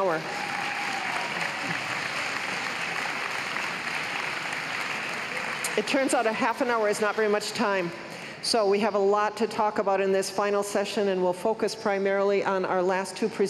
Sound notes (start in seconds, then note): 6.6 cheers and applause